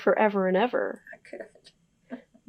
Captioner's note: laughs